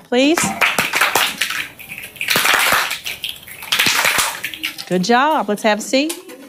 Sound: teacher and students clap and snap their fingers

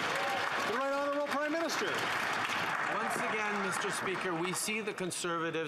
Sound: some Applause

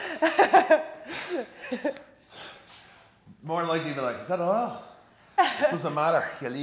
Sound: laugh

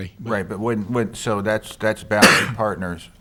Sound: coughs

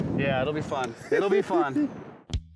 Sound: chuckles

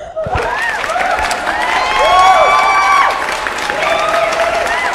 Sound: applause

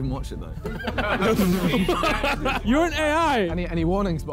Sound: men laughing

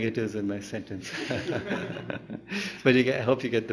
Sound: laughter; laughs

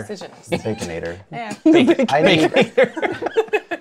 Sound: laughs

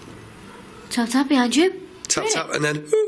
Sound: distant voice

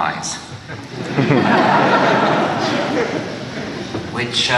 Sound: laughter

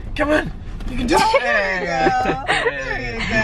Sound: laughing

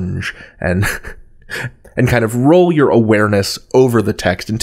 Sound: laughs

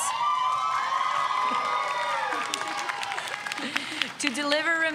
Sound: audience cheers

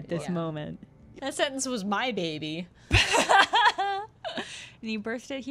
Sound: laughter

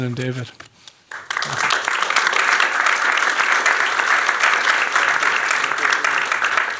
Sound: applause

